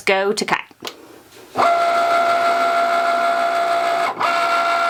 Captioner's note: printer whirring